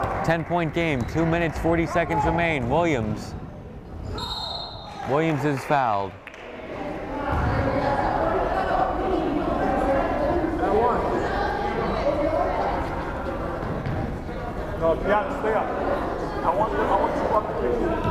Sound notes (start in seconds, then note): 4.1 whistle blows; 7.6 crowd chattering